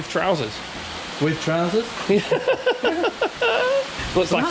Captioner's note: laughs